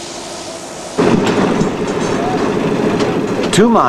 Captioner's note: mechanical noises